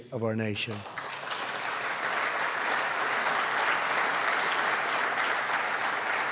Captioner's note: applause